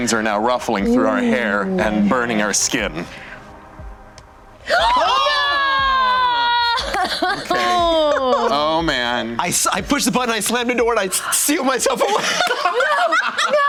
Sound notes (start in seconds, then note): 4.6 group yells in exclamation; 11.9 laughter